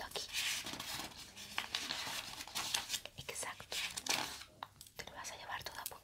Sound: paper sound

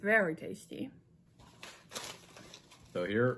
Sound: rustling sounds

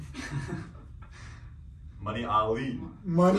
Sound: laughing

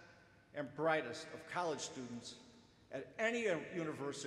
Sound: none

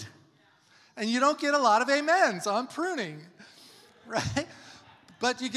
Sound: laughs

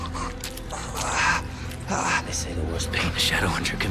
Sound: gasping

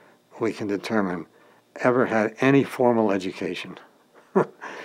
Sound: chuckle

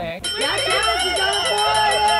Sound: bell rings; Colleen cheers

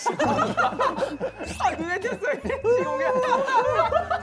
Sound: laughing

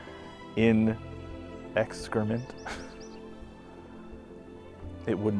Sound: laughs

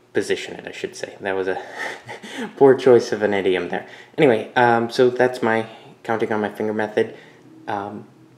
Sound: chuckle

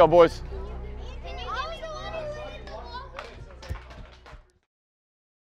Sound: children chattering

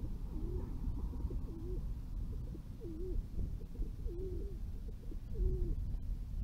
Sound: sound of doves cooing

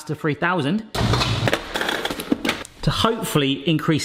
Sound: clanking

